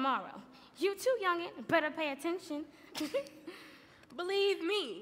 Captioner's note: laughs